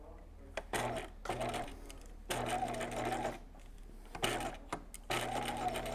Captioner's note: sewing machine whirring